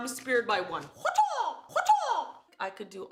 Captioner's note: imitates martial arts cry